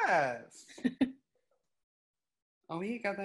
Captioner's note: woman laughs